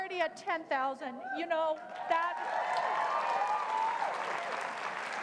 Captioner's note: cheers, applause